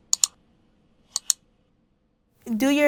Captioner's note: clicking